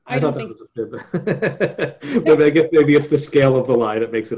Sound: laughs

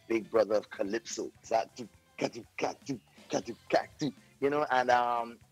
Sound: imitates bumping calypso beat

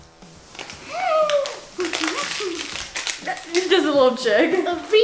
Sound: hums excitedly

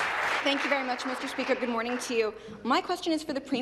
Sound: applause

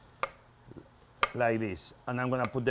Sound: knife slicing

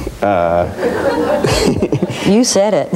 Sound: audience laughs

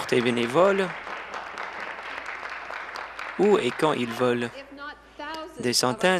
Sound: applause

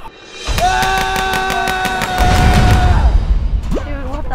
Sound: yelling

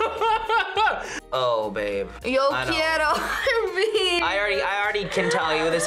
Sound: laughs; laughs

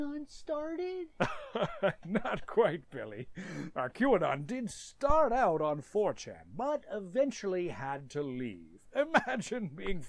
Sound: chuckles

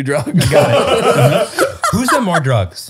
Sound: all laughing

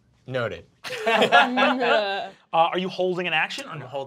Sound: laughing

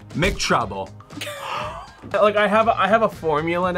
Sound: gasps; React laughs

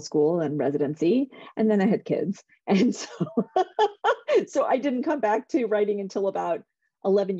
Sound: laughter

